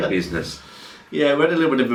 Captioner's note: chuckling